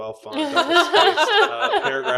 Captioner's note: laughing